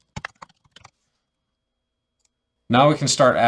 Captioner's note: keyboard clicking